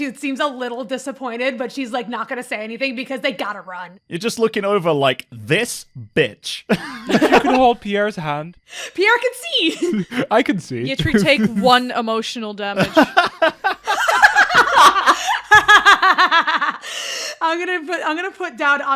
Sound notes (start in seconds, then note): 5.4 sassy; 6.7 laughter; 9.6 giggles; 15.9 laughter